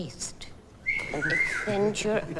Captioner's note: boy whistles